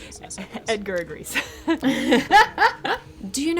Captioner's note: laughing